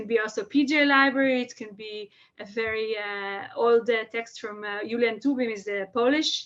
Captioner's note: Hebrew